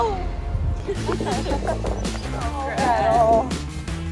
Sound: both laughing

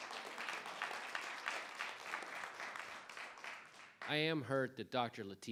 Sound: audience applauding

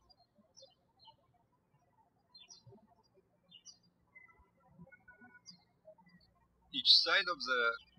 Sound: birds chirping

